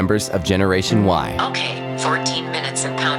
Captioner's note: automated voice